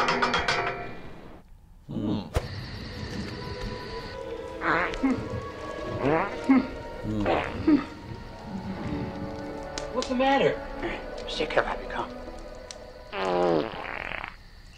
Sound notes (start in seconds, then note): 0.0 ladder rungs clanging; 7.1 farting noises; 13.1 moist flatulence